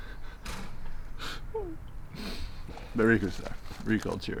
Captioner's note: crying